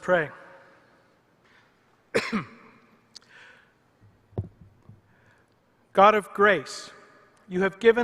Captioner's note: cough